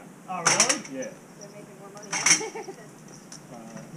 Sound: laughs

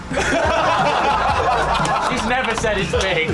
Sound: laughter

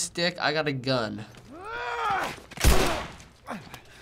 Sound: man grunts fiercely; gunshot

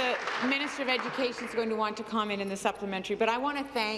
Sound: applause

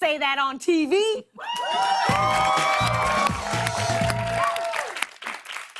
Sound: cheers and applause

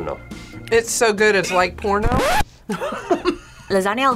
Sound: laughs

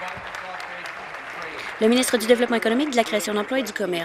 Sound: applause

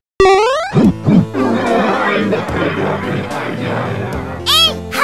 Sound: grunt gibberish

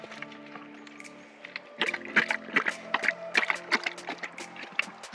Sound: Cobar drinking noise

